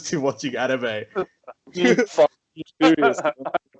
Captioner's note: replies in sh*tty mic; laughs